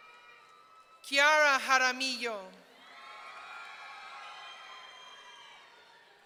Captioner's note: audience cheering